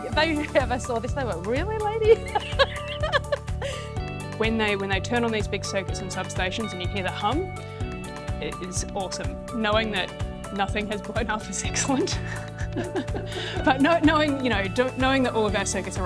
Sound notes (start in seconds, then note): 11.8 laughs